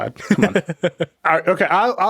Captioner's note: laughing